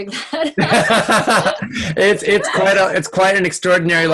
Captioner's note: laughing